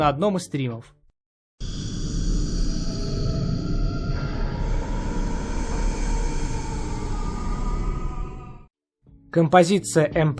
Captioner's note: sound effect